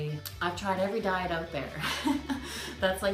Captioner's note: laughing